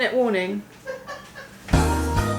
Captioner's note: laughing from other room